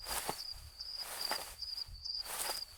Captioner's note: footsteps on trail